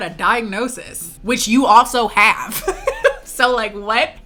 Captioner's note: laughs